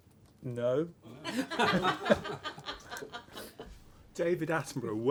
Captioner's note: laughter